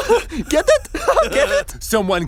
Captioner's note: laughs